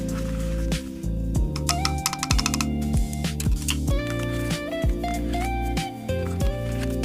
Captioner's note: glue tape roller